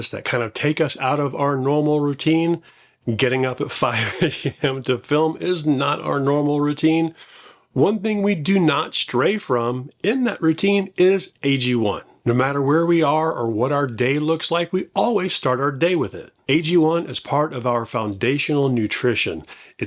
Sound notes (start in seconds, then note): 3.8 laughs